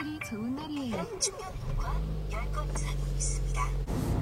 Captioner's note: vroom